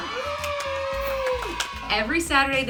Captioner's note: cheering